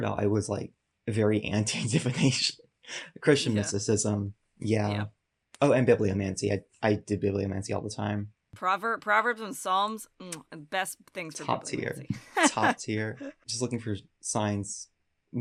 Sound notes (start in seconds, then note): 2.9 chuckles; 10.4 smooches